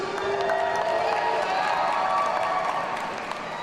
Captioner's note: audience cheering